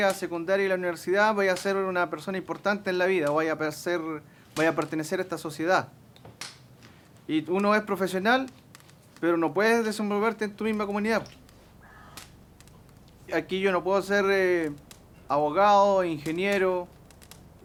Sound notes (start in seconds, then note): 3.7 fire crackling repetitively